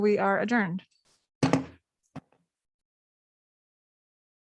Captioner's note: gavel bangs